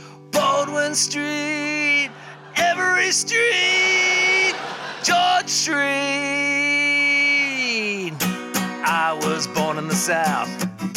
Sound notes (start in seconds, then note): 4.3 laughter